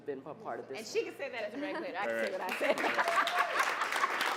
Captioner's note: applause